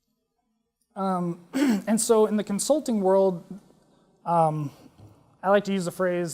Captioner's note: cough